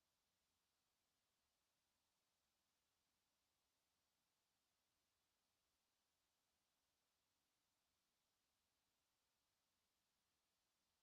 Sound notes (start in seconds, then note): none